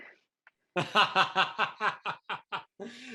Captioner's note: laughs